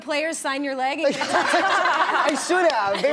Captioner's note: laughing